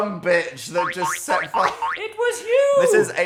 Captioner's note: finger boinging